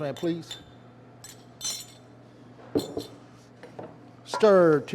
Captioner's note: spoon clanging